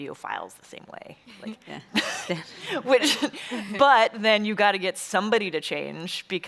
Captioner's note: chuckles